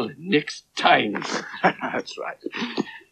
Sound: giggling

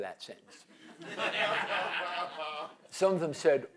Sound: laughter

